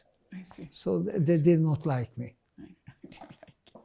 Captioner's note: laughing